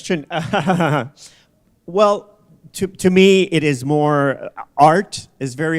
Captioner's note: chuckle